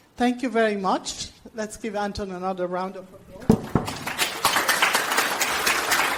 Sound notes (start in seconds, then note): 3.6 audience applauds